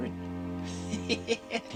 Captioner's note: laughs